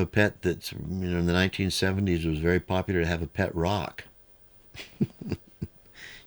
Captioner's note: laughs